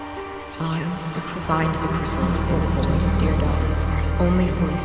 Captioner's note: Contents of the letter swirl and echo in Hona's voice